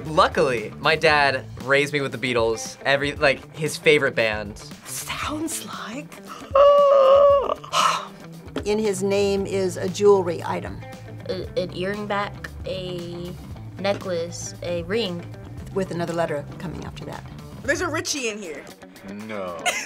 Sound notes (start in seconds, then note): 6.2 yawns; 19.3 laughs